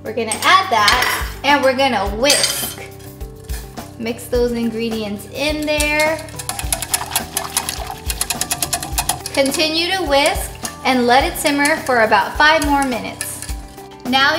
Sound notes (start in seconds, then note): 5.5 clanging